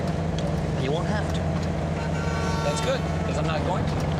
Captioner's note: car horn honking